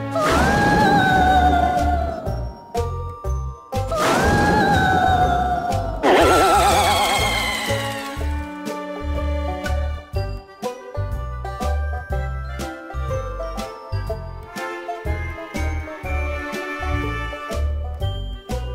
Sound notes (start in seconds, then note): 0.2 screaming; 3.9 screaming; 6.0 crying